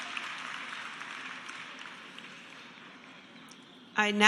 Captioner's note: cheers and applause